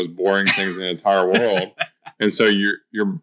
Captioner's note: laughs